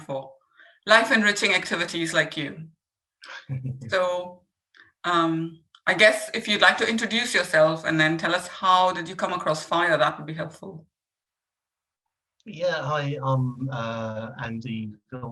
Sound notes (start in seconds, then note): 3.3 laughing